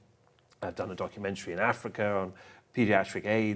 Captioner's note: none